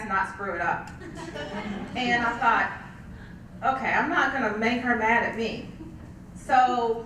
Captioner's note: laugh